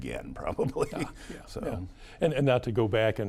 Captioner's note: chuckles